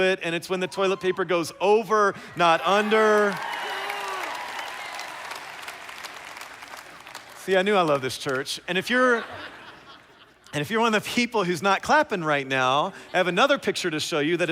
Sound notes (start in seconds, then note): 2.4 cheers